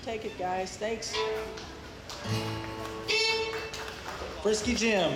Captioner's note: audience applauds